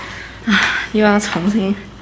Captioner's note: sigh